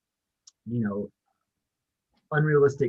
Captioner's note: lips smack